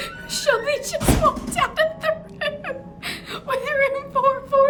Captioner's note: laughter